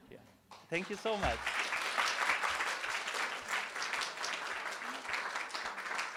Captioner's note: applause